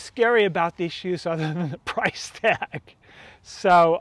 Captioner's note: laughing